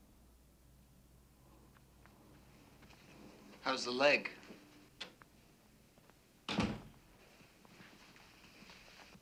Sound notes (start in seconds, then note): 6.5 door closes